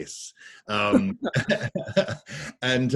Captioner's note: all laugh